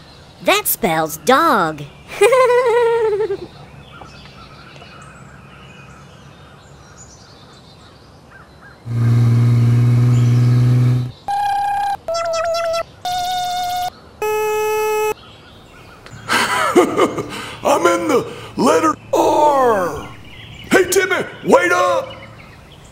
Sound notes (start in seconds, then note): 8.8 engine sound; 11.3 click; 11.3 electric motor sound